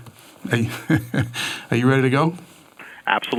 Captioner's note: laughs